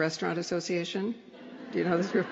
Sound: laughter

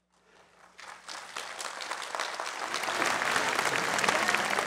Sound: audience applauds

